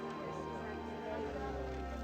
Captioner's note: women speaking